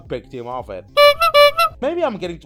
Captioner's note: honk honk